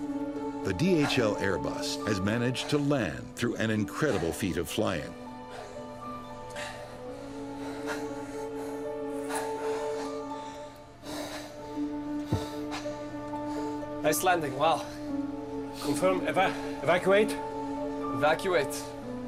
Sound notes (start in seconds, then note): 7.0 all gasp heavily